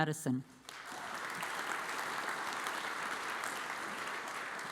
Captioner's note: audience applauds